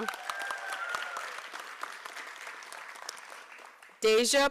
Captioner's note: applause